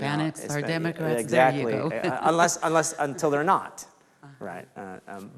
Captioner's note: laughs